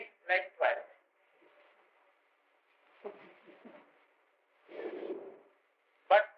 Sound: chuckles

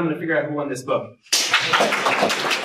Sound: clapping

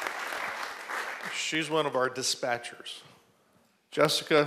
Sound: applause

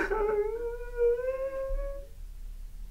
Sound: David sobs

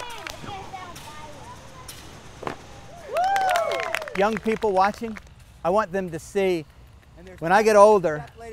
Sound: applause

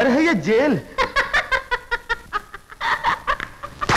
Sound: laughing

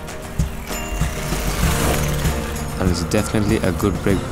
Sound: bicycle bell dings

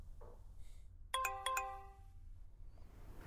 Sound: phone beeping

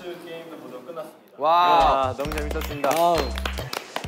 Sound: applause

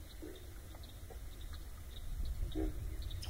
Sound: bullfrogs croak and insects buzz

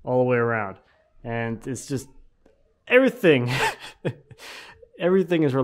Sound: laughing

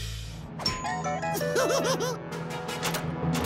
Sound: laughing

